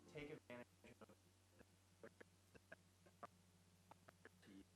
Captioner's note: stuttering audio